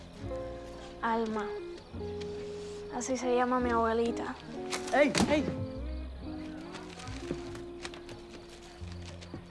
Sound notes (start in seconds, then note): 1.2 Esti speaks in Spanish